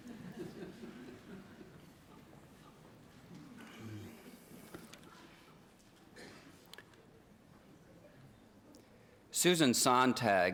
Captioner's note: laughter